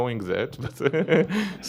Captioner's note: laughter